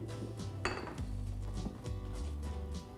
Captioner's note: glasses clanking; gentle upbeat music